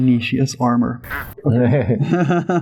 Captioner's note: laughter